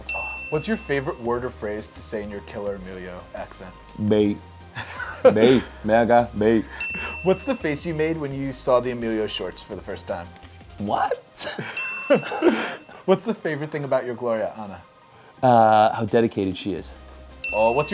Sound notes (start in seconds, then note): 0.0 bell chimes; 4.8 laughing; 6.8 bell chimes; 11.7 bell chimes; 12.0 laughing; 17.4 bell chimes